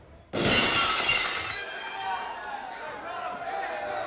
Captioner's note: glass shatters